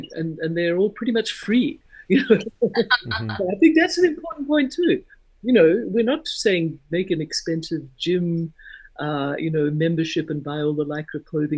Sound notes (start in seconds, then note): 2.3 laughing